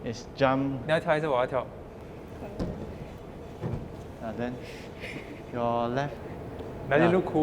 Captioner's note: Mandarin